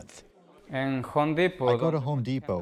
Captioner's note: through translator